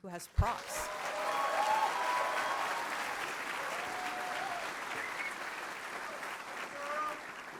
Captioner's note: cheering & Applause